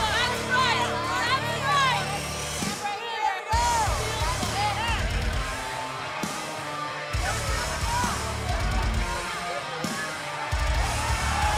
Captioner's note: cheers and applause